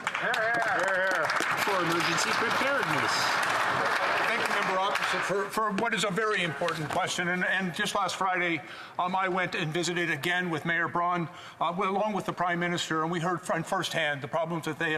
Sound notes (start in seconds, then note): 4.9 applause